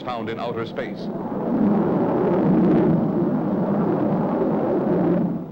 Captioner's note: engine whirring